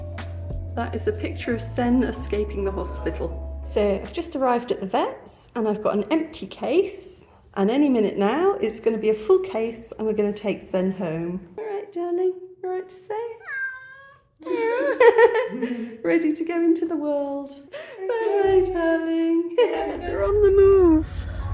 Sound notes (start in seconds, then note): 13.4 meow; 14.4 laughing; 19.5 laughing